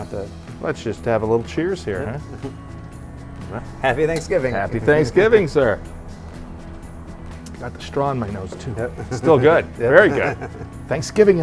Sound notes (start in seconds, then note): 2.2 chuckles; 5.8 lighthearted music; 8.5 chuckles